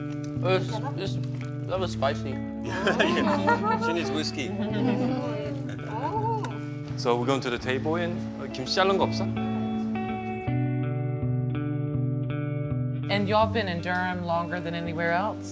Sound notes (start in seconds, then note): 3.4 speaks in foreign language; 8.0 father speaks in foreign language; 9.8 calm music